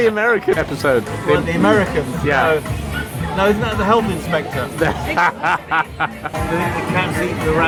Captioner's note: laughter